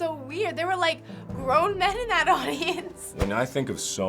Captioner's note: laughs